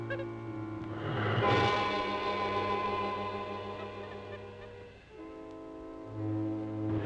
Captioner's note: mysterious music; snake hissing